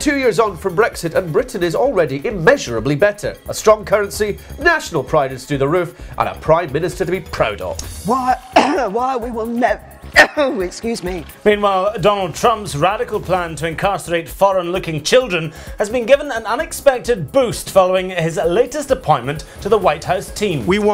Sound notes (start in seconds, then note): 8.4 cough